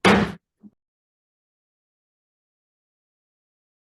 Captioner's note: gavel bangs